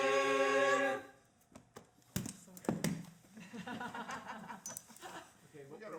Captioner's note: all singing; books closing and chuckles